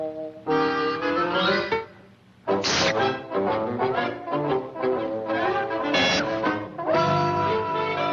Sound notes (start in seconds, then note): 1.4 Flop slurping